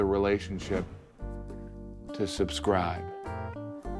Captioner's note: air whooshes